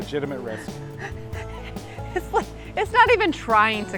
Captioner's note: laughs